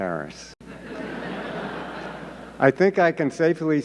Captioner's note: audience laughing